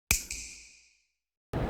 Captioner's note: snap